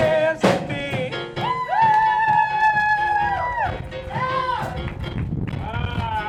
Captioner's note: cheering